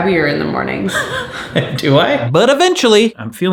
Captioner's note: laughing